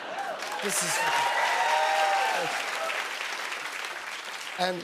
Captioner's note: cheers and applause